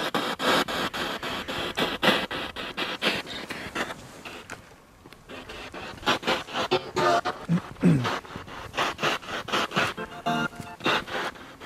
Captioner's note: radio noise from the spirit box